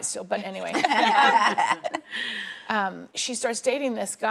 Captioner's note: laughing